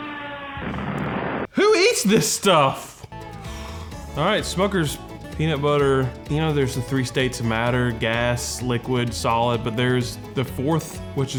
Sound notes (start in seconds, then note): 0.5 plane crashing